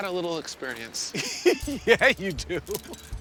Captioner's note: laughs